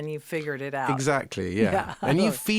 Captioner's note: laughing